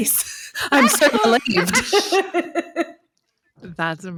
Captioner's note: all laugh